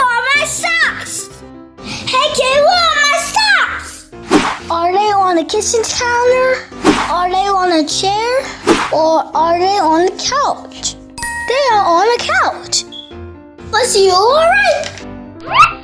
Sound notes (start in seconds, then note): 11.3 magical ting; 15.4 cartoony blooping